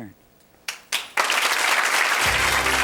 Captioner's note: audience applauds